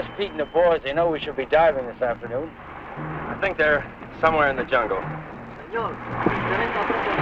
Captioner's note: man speaking in Spanish